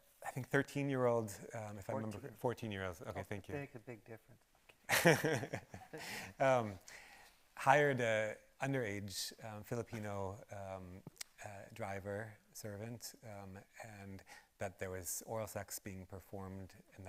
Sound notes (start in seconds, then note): 4.9 chuckles